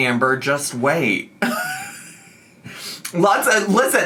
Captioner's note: laughs